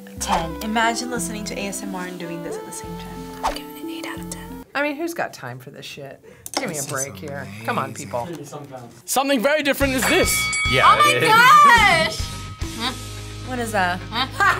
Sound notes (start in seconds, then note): 3.3 whispers; 9.9 bell rings